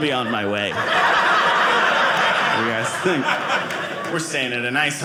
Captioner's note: audience laughing